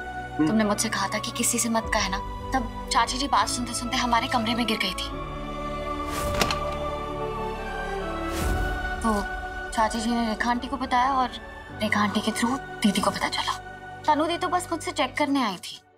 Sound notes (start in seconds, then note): 6.2 door opens